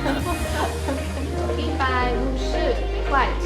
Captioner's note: Mandarin